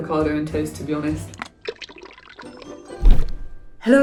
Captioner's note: viscous liquid pours; air whooshes